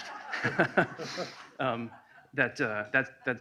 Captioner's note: laughing